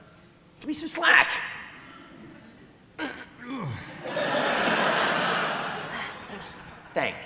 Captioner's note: grunts